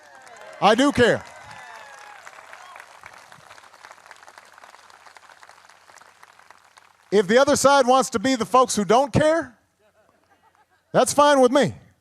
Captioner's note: applause